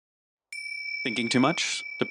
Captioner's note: ding